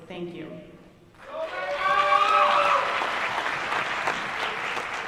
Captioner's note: applause